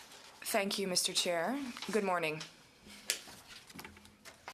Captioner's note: speaking french